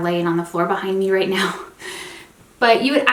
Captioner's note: chuckling